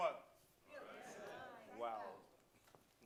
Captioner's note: audience chatters